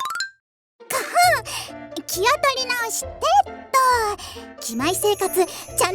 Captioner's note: cough